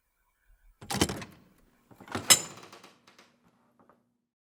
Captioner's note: clinking sound